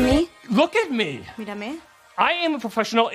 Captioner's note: speaks in english